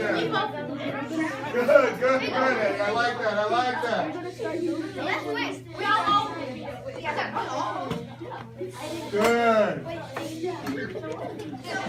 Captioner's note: students chatting, working. affirming